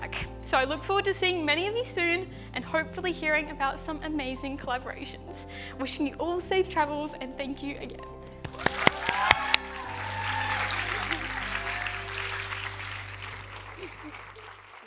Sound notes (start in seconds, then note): 8.4 cheers and applause